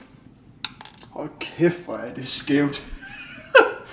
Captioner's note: chuckles